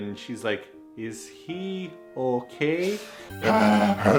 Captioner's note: panting noises